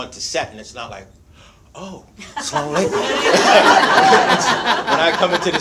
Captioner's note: speaks in Arabic